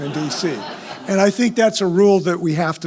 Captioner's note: laugh